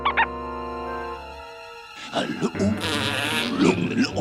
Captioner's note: growling, huffing